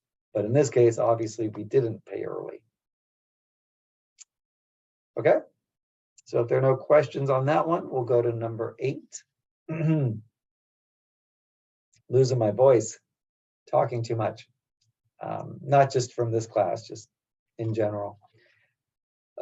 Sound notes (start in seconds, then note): 9.7 cough